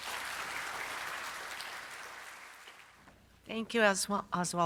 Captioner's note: audience claps